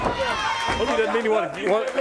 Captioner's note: crowd cheering